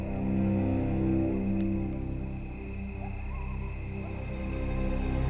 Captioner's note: crickets chirping